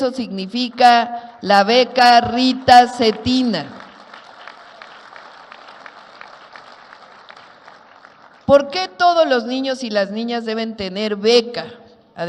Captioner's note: applause